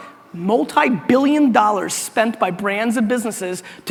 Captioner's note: none